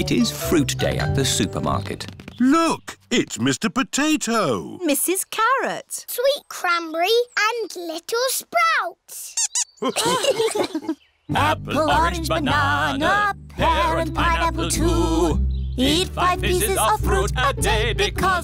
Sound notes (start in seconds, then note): 9.3 squeaks; 9.8 laughter